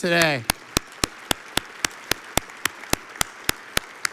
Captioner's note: audience applauds